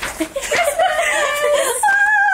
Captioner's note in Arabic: يضحك